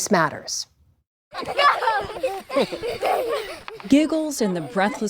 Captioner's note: laughter